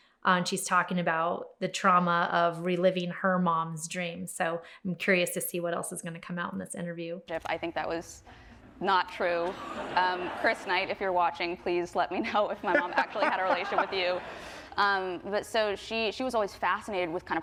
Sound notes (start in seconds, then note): 9.4 audience laughs; 12.7 laughs